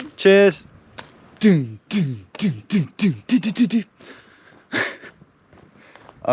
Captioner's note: vocalizing percussion